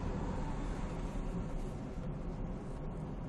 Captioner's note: none